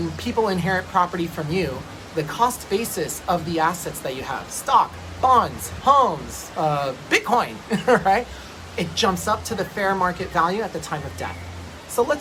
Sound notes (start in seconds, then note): 7.5 laughs